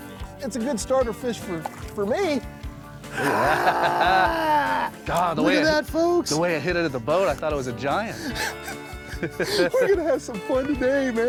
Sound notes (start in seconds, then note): 3.1 growling; 3.1 laughing; 8.1 both laughing